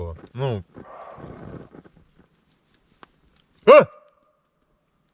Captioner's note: shouting